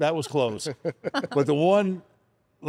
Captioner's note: chuckles